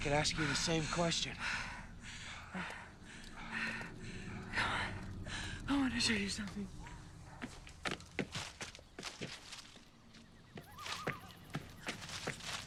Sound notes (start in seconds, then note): 1.4 panting